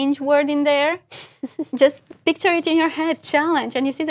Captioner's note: laugh